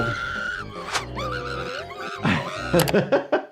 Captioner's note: screaming